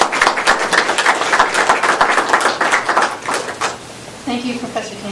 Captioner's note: applause